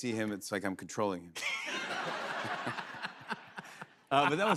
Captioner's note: laughter